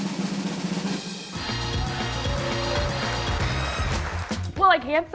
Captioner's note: drumroll; people cheering; people clapping